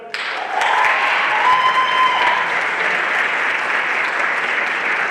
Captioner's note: everyone applauding